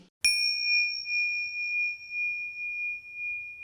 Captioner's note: bell chimes